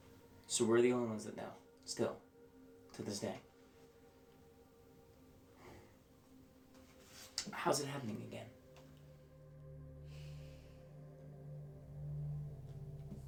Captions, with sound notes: - So we're the only ones that know still? To this day? How is it happening again? (sighing)